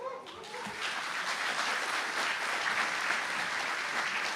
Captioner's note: applause